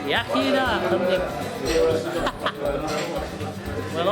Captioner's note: laughs